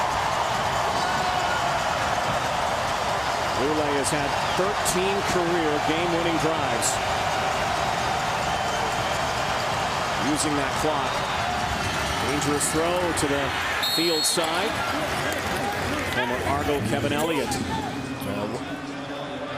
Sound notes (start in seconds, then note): 3.1 cheering